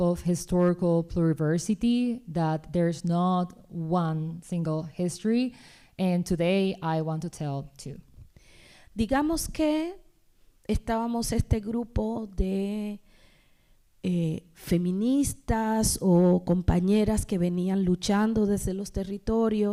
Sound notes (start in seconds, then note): 8.8 speaking spanish